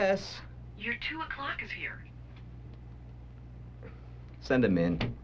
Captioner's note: on phone